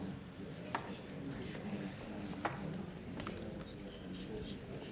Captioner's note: men murmuring